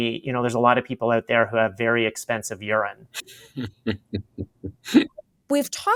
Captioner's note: laughter